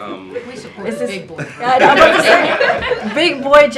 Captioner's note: laughter